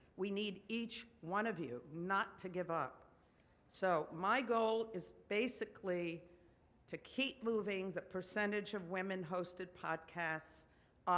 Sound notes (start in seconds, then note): none